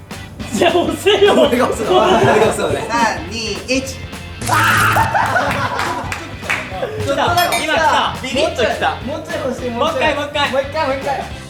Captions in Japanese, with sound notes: ３・２・１ （電流の効果音） あ゛ーーー！！ 爆笑 ちょっと、ちょっと来た ちょっとだけ来たー！ いま来た、びびっときた もうちょいほしい、もう１回もう１回！